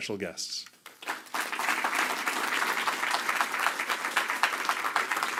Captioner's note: applause